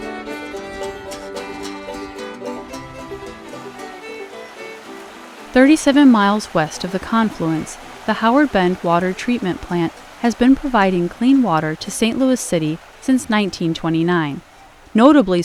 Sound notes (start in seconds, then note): 3.6 water rushing